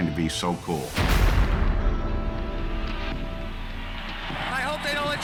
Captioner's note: explosion pounds